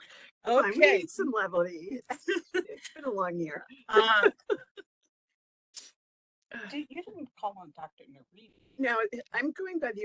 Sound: laughing; laughing

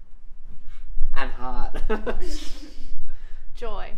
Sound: laughs

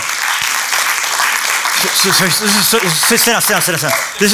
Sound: applause continues

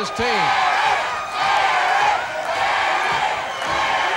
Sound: chanting "Eric"

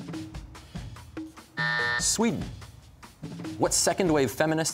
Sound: buzzer

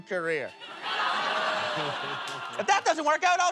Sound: laughter

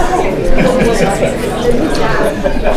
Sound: attendee laughing

